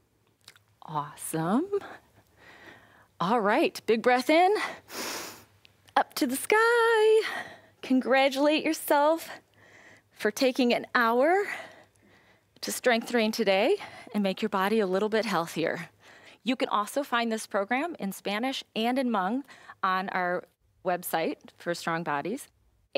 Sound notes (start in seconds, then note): 4.6 inhales